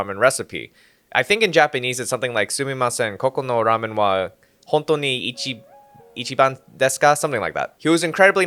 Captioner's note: bad Japanese